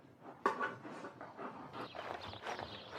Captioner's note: dog panting